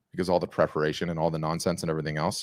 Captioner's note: none